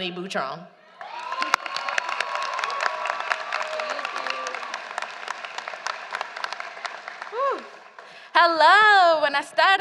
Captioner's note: applause